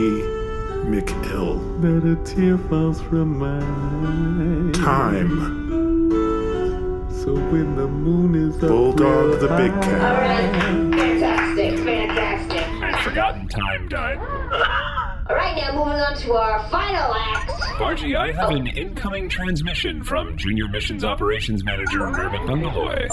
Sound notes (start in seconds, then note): 10.4 applause; 17.3 beeps and boops of incoming transmission